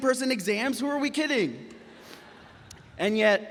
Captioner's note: graduates laughing